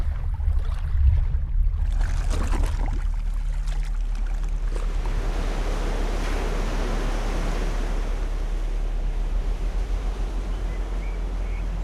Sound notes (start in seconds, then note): 4.7 surf crashes on shore